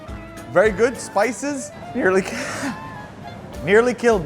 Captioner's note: gasps